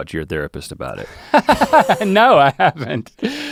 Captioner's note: Link laughs